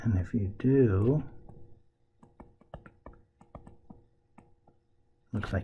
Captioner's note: tapping Sounds